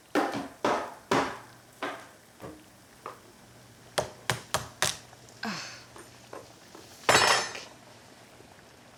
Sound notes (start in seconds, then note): 5.4 Alex sighing